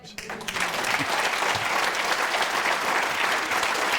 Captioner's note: applause